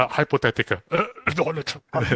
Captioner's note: coughs